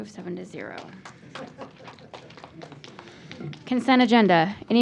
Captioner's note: applause